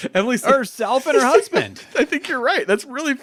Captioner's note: laughing